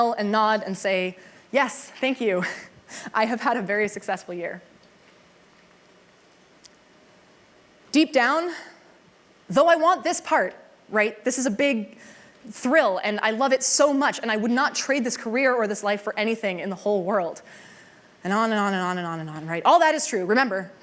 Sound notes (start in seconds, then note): none